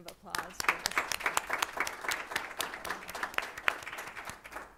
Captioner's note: applause